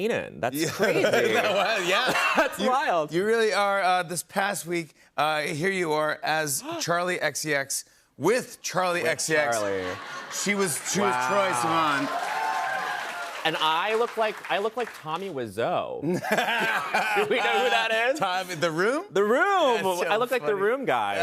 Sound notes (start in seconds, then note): 0.9 laughing; 12.1 cheers and applause; 16.0 laughter